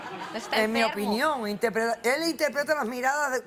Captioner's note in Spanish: Risas